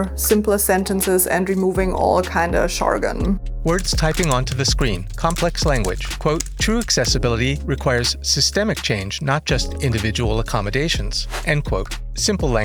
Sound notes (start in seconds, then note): 7.9 computer keyboard clicking